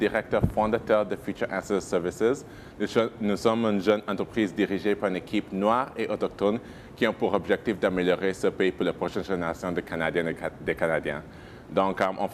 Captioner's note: speaking in French